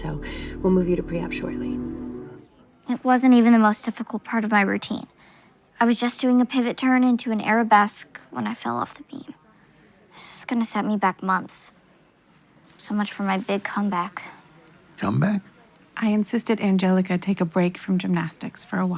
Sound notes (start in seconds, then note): none